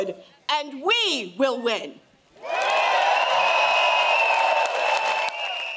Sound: crowd cheers

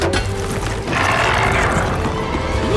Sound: giant crab growls

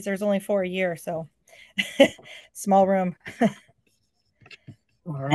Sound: chuckles

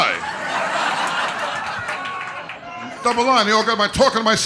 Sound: audience laughter

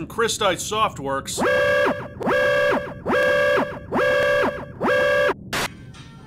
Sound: alarms blare; TV buzzing; quiet music

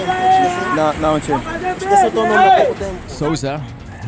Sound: locals whistling; locals shouting in Portuguese

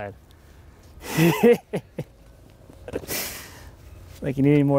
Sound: laughing

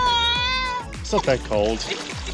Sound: whines

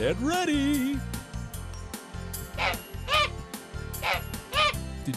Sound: sound of a goose

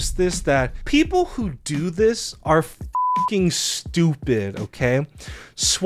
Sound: beep

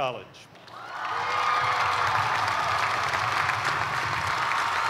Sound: cheers and applause

